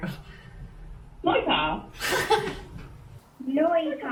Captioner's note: laughs